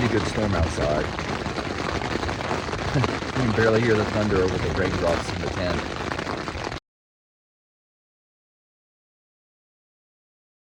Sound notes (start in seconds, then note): 6.5 kind of an abrupt cut off